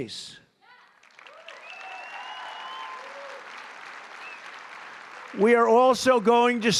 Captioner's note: applause